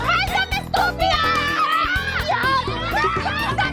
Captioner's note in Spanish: gritos